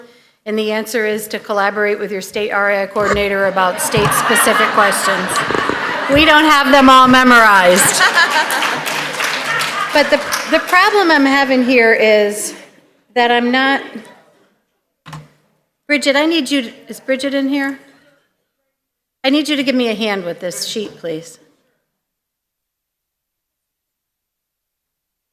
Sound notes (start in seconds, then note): 3.6 laughter; 7.0 applause